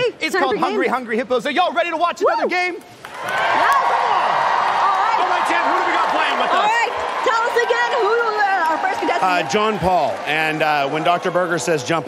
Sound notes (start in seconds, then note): 8.1 cheers and applause